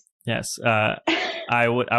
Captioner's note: laughs